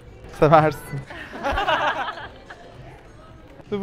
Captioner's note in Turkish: gülüşme